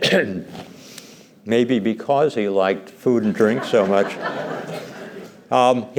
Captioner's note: laughter